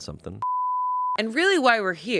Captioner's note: beep